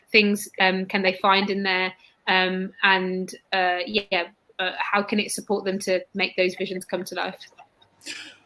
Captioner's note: erm